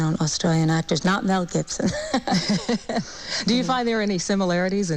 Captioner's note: laughs